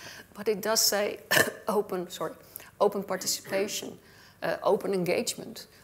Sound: coughs

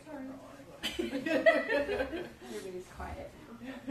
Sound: laughter

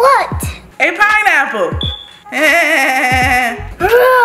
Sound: laugh

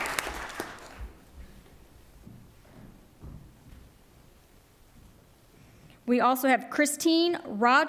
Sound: applause

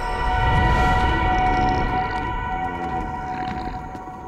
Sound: grunting

